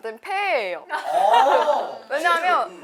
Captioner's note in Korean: 깔깔